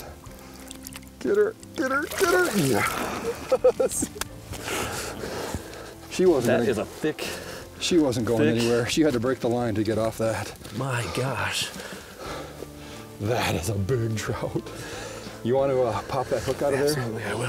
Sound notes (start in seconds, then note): 2.2 laughing